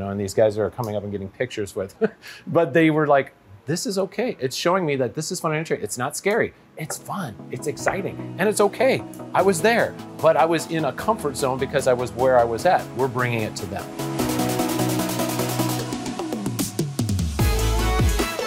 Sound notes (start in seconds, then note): 2.0 laughing; 14.5 upbeat instrumental music